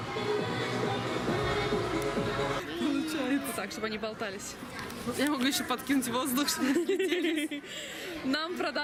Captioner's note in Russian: смеются